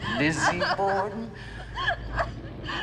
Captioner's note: Liz whining and sobbing